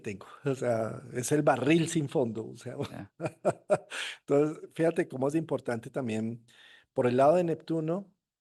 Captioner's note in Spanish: risas